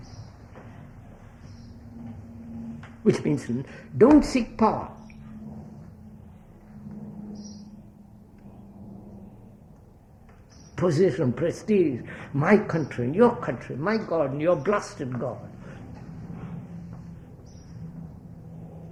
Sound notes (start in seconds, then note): 4.8 laughs